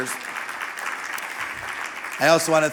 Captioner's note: audience applauding